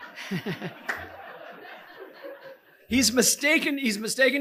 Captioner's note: chuckling; audience laughing